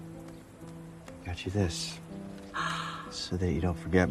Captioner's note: gasping